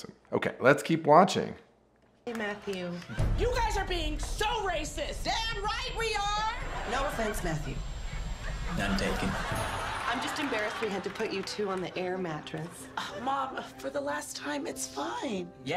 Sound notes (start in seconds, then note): 8.0 audience laughter